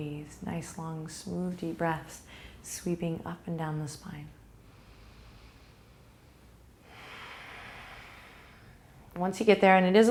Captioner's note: breathe